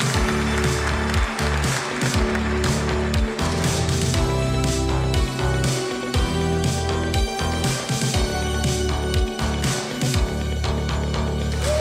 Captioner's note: applause